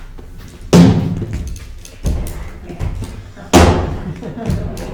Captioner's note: chair banging